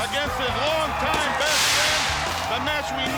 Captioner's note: crowd cheering